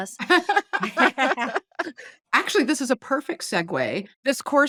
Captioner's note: laughing